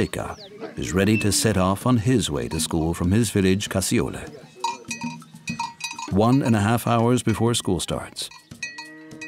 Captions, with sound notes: (whistling) At shortly before 7:00 a.m., night watchman Moseika is ready to set off on his way to school from his village Kassiola.